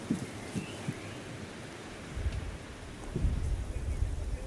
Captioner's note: nature sounds